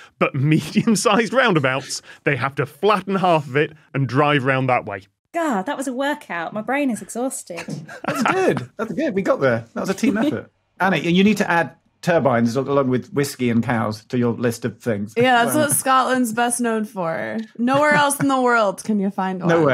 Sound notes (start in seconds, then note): 7.4 laughs